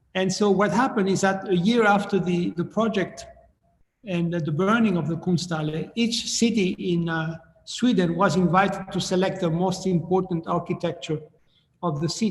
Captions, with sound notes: And so what happened is that a year after the project and the burning of the (speaking in foreign language) each city in Sweden was invited to select the most important architecture of the city.